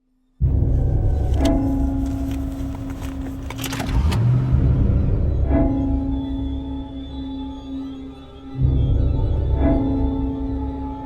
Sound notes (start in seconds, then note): 0.4 suspenseful music; 3.6 car starting; 5.5 suspenseful music